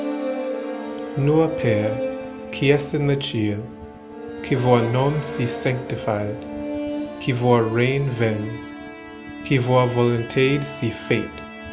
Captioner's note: speaking Britannian